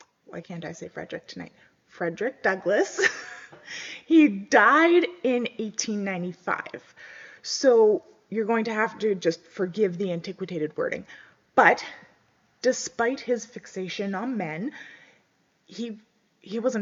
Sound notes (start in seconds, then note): 4.0 laughs